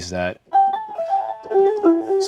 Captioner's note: tones playing